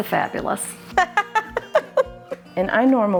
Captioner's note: laughing